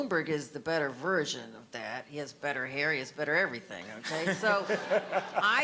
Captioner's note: audience laughter